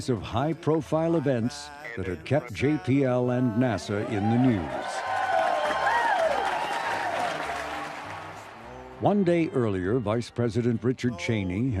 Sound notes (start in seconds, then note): 9.0 crowd cheering